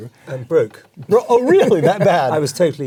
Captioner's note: laugh